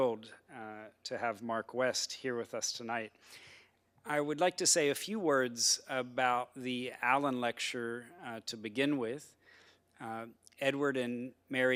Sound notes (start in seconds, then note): none